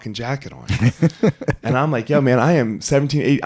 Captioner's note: laughing